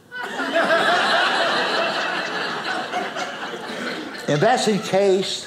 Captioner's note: audience laughing